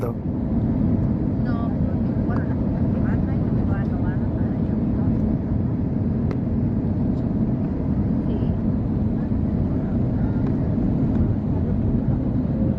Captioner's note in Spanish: aterrizaje del avión Airbus A320 Neo de SKY Airline, sonido ambiente